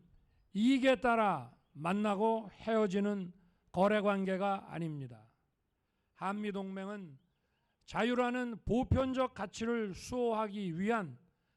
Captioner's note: speaking non-english